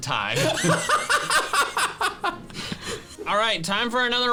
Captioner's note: both laughing